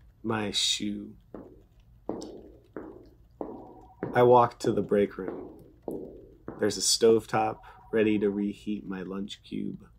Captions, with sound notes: my shoe. [footsteps] I walk to the break room. There’s a stovetop, ready to reheat my lunch cube.